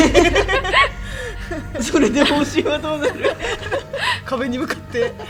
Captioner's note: laugh